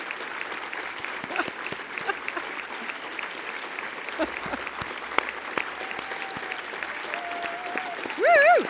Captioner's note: applause; laugh